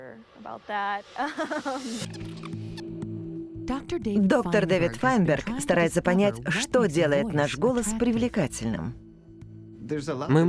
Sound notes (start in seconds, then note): 1.2 laughs; 2.1 tape rewinding